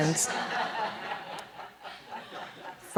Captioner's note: laughter